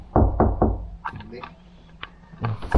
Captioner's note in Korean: 문 두드리는 소리